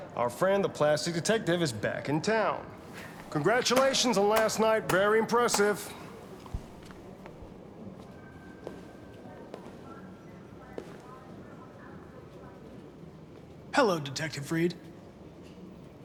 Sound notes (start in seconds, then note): 3.7 sardonically